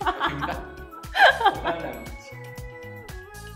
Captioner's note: laughs